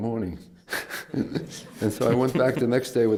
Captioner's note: laughs